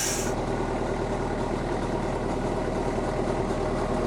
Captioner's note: engine rumbling